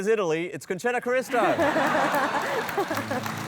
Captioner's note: applause